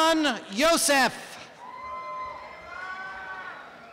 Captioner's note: applause and cheering